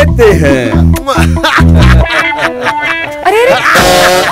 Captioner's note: Laughing